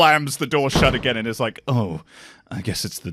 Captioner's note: door slams